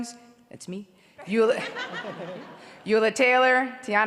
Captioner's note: audience laughs